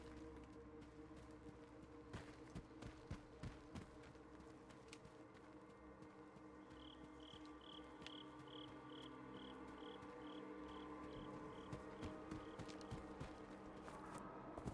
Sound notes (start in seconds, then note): 6.5 birds chirping; 11.0 ominous music